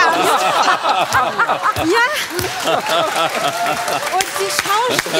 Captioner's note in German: Lachen und Applaus